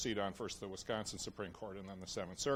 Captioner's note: none